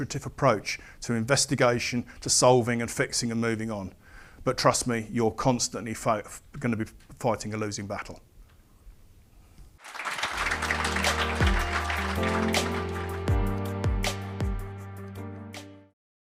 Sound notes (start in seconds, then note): 9.8 applause